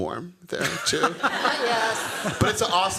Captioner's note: laughter